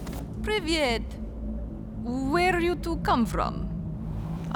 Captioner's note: russian